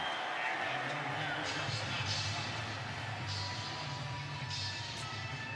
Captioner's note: pa announcement